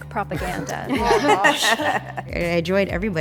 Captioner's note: laughing